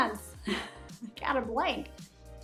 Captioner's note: giggling